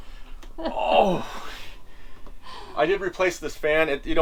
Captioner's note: groans